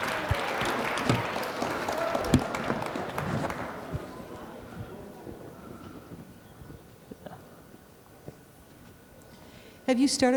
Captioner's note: applause